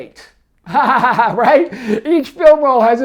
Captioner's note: laughs